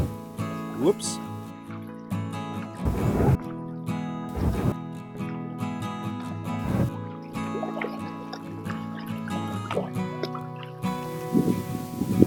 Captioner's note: hull hitting log sound